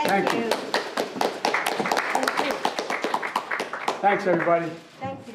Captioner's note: applause